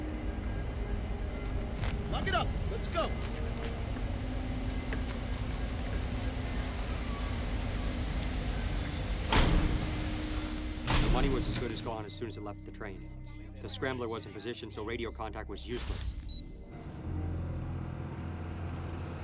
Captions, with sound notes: - Lock it up, let's go. (train hisses) (doors bang) - The money was as good as gone as soon as it left the train. The scrambler was in position, so radio contact was useless. (machine beeps)